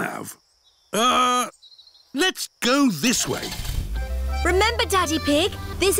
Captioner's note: starts engine